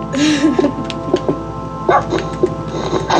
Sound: laughs; music and game sound

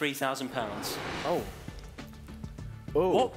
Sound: whooshing

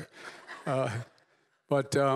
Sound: laughter

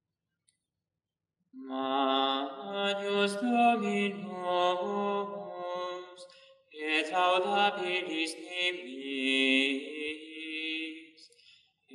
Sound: chant

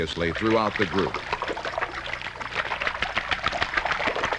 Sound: splashing sounds

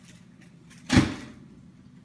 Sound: drawer slam

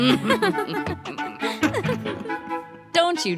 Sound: laughter

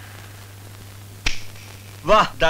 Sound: switch clicks

